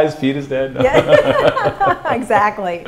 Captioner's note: laughter